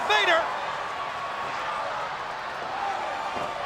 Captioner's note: crowd yelling